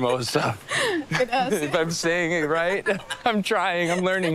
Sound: laughs

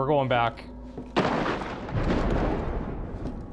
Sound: thunderclap

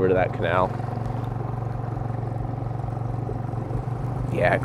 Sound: boat engine rumbling

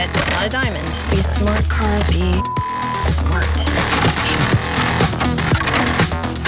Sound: beep

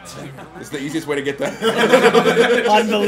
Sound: laugh

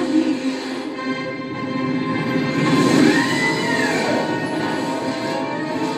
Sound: bellows

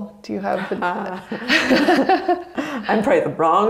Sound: both laugh

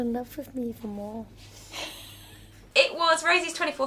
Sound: laughs

